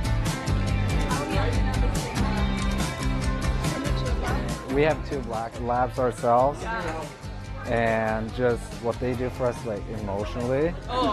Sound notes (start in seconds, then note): 0.9 group chatter